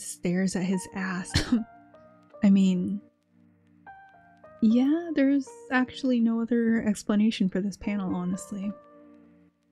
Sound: cough

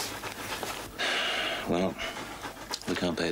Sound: Charlie sighing

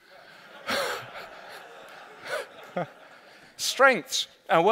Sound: laughter

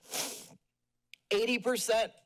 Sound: sniffles

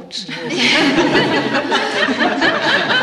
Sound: laughter

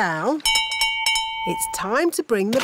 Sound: bell rings

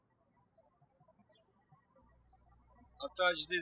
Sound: birds chirping

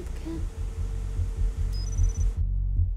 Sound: beeping

